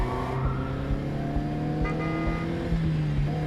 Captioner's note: horn honks